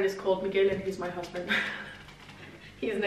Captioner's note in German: laughs